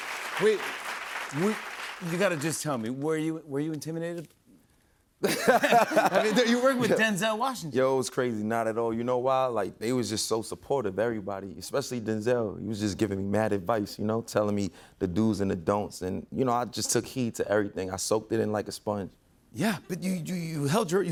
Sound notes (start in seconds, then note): 5.2 laughter